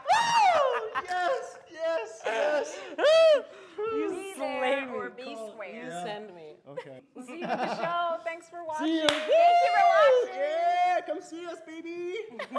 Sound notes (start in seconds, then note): 7.3 laughs; 12.4 chuckling